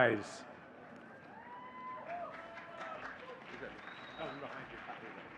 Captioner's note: audience cheering and clapping